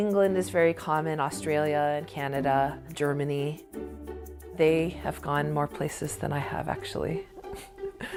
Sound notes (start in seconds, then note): 7.0 laughs